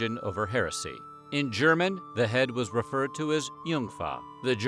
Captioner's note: speaking german